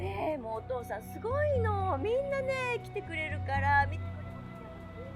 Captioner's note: tense music; mom speaking in foreign language